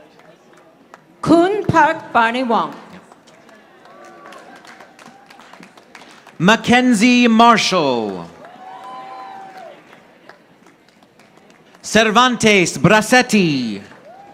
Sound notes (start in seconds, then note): 3.0 audience applauding; 7.9 audience applauding